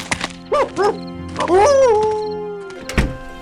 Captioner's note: howling